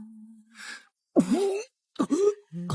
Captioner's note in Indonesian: Uhuk uhuk